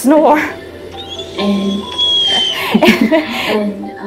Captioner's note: dog whines; laughing